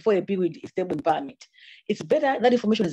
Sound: audio distorts

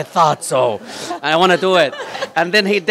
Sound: laughter

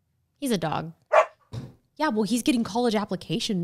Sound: dog barks

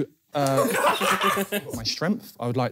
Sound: laughing

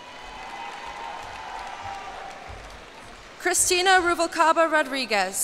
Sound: cheers and applause

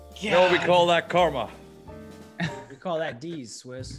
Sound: laugh

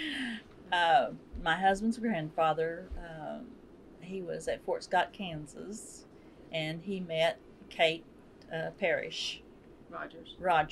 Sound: laughs

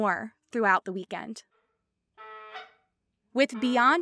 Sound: canada goose call sound

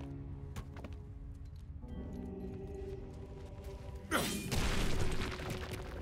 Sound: grunt

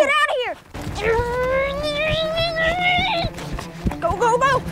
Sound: grunting

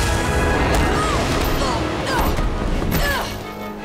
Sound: grunting

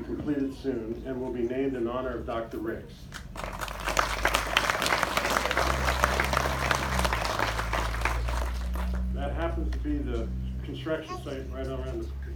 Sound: applause

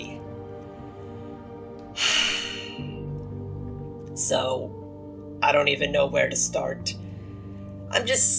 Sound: frustrated sigh

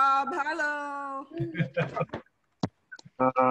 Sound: laughter

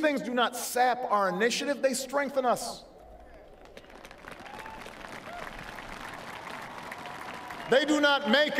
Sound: applause

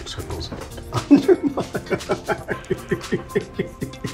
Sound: laughing

